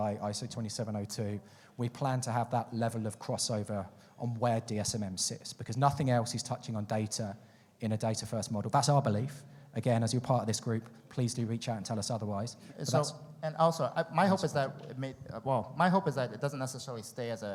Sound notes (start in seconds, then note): none